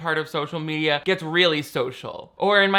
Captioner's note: none